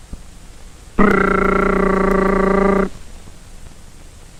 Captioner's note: silly machine gun noises